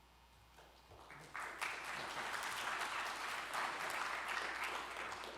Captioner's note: applause